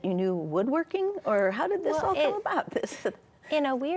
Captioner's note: chuckles